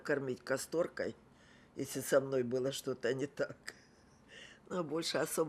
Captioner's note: laughing